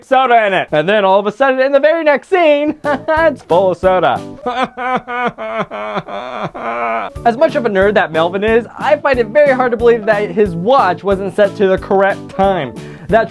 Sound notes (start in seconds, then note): 4.4 Crazy Nate cries